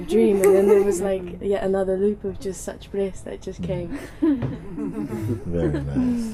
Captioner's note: laughter